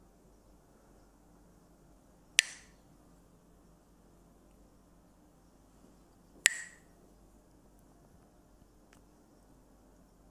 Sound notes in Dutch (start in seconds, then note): 2.4 klakt met stokjes; 6.4 klakt met stokjes